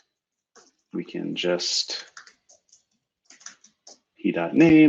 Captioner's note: typing